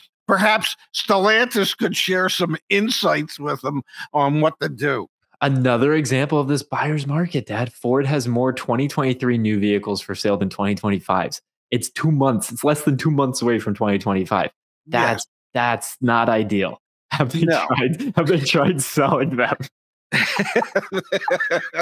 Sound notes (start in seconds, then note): 20.1 laughing